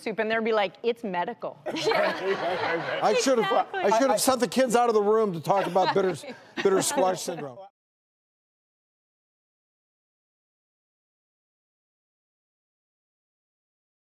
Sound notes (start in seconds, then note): 1.7 laughing